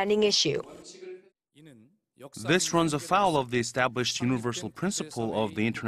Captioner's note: Korean